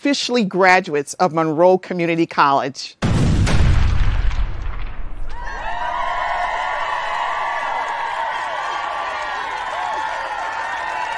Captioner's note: sound of explosions and cheering